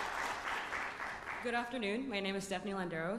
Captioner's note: applause